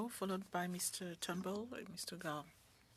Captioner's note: speaking French